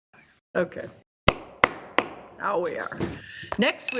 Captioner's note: gavel bangs